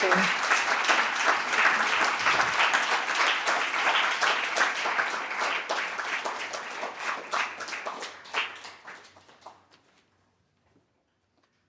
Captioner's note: applause and cheering